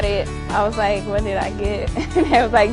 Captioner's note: laughs